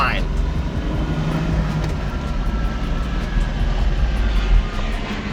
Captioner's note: car engine revving